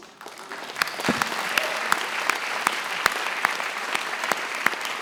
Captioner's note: attendees chuckling; attendees applauding